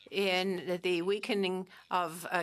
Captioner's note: speaking French